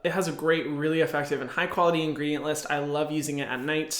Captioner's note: none